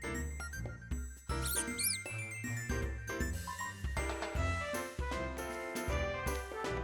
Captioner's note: squeaks